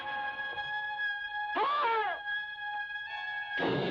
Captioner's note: screams